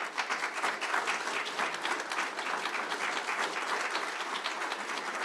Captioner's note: audience applauding